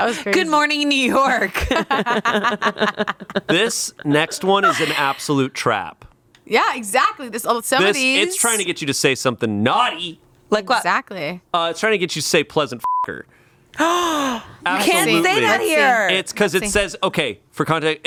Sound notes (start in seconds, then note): 1.6 everyone laughs; 12.8 beep; 13.7 gasps